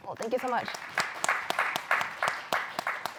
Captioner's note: applause